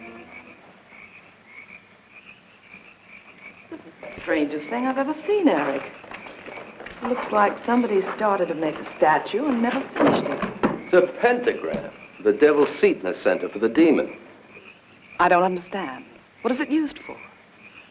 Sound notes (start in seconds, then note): 0.6 insects chirping